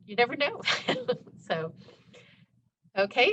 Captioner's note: chuckles